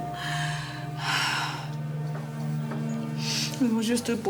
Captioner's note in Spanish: exhala